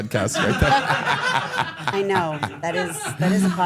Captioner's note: everyone laughs